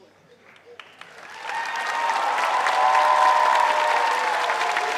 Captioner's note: applause